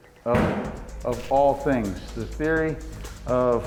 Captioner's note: door slams